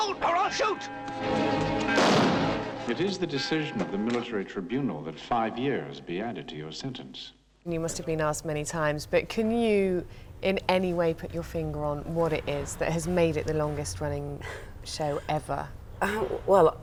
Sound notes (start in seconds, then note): 0.0 bell chiming; 3.4 gunshot